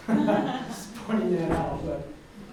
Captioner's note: audience laughs